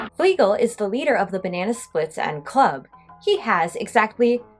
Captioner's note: none